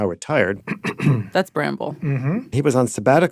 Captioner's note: clears throat